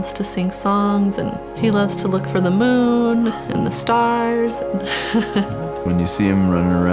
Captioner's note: laughs